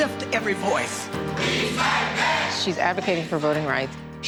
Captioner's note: chanting